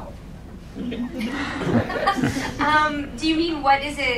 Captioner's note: audience laughing